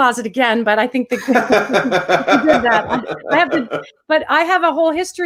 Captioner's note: laughs